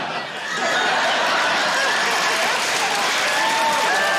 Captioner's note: cheering, applause; laughter